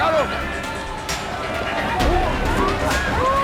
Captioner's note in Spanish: Griterío